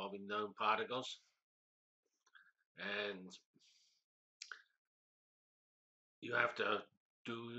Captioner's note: pause